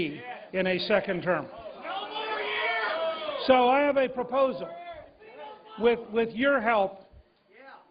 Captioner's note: cheers and applause